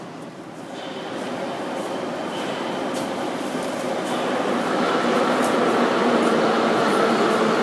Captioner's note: arrival of train at the station